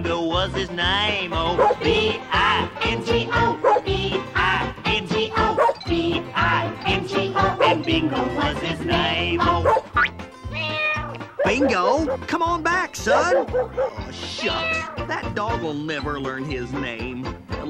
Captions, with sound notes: ( barks ) ( barks ) ( barks ) ( barks ) - ( barks ) - ( meows ) Bingo, come on back! Shucks! That dog will never learn his name.